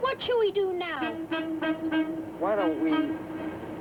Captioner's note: boat horn honks